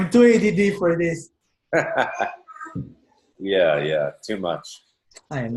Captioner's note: chuckles